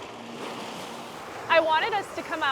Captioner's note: waves crashing; gentle music continues